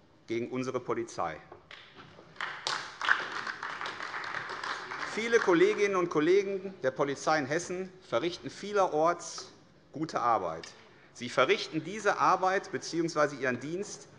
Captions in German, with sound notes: gegen unsere Polizei. [Beifall AfD] Viele Kolleginnen und Kollegen der Polizei in Hessen verrichten vielerorts gute Arbeit. Sie verrichten diese Arbeit bzw. ihren Dienst